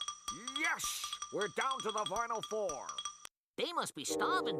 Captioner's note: imitating Marv Albert